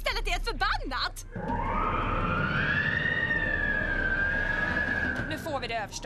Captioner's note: ghostly moaning